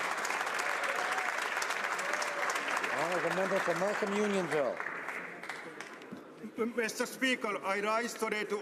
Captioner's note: applause